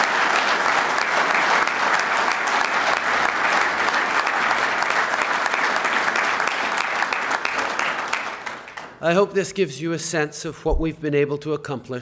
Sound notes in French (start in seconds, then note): 2.5 Applaudissements